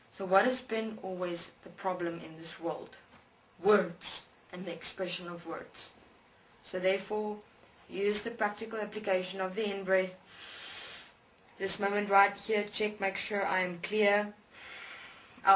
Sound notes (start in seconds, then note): 10.3 breathes in; 11.5 holds breath